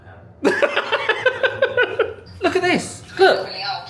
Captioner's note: laughs